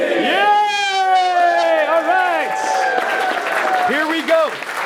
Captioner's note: shouts; attendees clapping